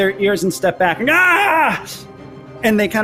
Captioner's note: yells